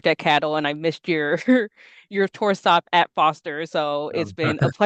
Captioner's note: brief laughter